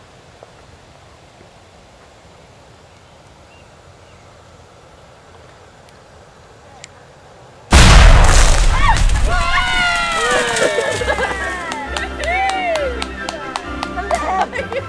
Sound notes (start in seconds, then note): 7.7 loud explosion; 8.7 cheering; 11.6 clapping; 14.7 laughing